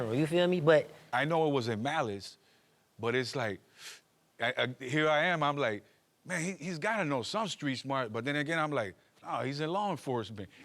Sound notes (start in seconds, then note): 3.7 inhales sharply